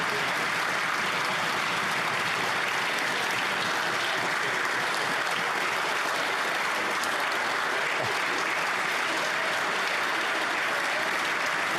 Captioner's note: applause